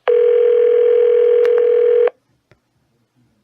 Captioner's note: phone still ringing